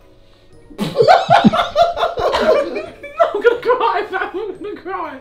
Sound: both laugh

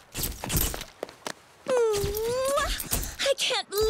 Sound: kissing

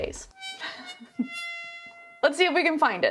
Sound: sad trombone music; laughing

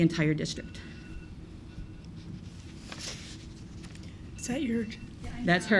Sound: alarm rings

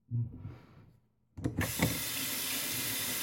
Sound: water running

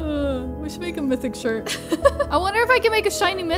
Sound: laughs

